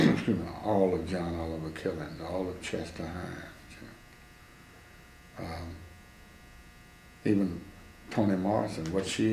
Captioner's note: coughs